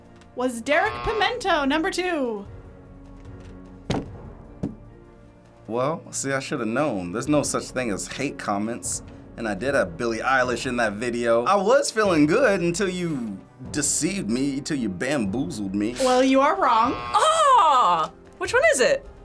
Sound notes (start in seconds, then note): 0.7 buzzer; 16.6 buzzer